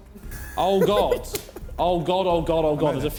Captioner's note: Vik laughing